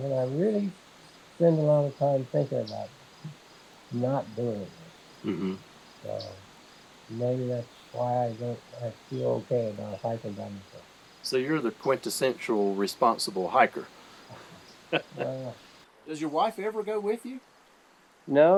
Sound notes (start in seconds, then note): 14.8 both laughing